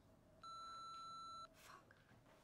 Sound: answering machine beeps

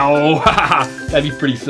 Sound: laughing

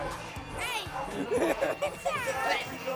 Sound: laughs

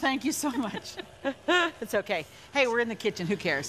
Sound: both chuckling

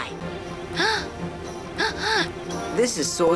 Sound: gasps

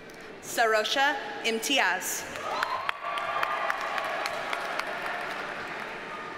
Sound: audience cheers and applauds

